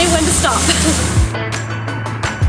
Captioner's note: laughs